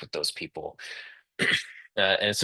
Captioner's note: interpreter clears throat